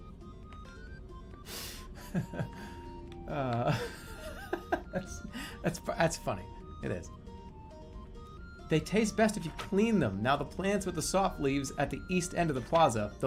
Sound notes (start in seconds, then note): 0.0 laughing and giggling; 3.3 continues giggling